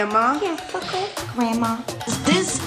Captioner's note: mocking